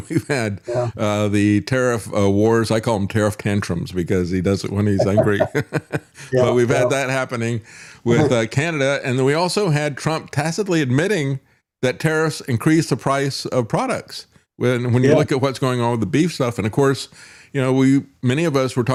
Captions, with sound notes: We've had the tariff wars, I call them tariff tantrums because he does it when he's angry. (Laughing) We've had that happening with Canada and then we also had Trump tacitly admitting that tariffs increase the price of products. When you look at what's going on with the beef stuff and of course, many of us were